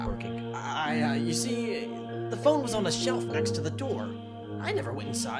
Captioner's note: nervously